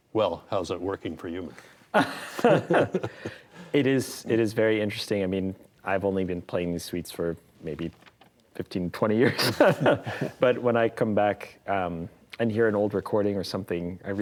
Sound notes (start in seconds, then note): 1.9 laughs; 9.3 laughs